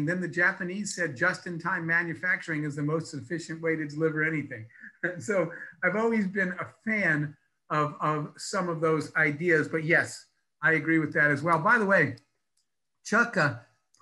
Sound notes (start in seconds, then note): 4.6 laughs